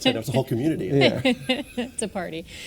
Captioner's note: laughing